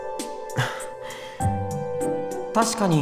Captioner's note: somewhat dejected